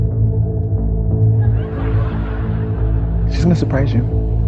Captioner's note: audience chuckling